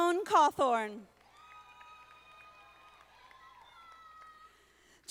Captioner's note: audience applauding